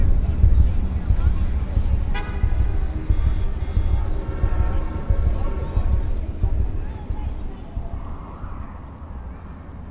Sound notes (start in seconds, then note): 2.1 horns honk; 2.4 traffic hums